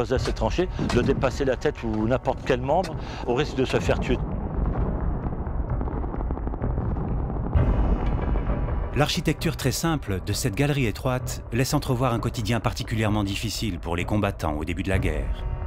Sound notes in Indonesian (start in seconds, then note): 4.7 suara pertempuran